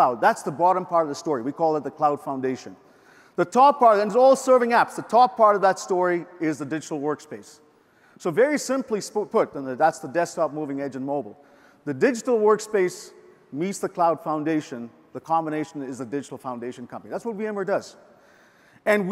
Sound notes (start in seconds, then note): none